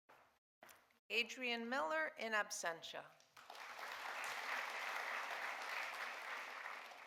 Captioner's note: audience applauding